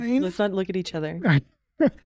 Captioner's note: man laughing